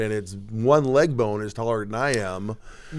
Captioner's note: none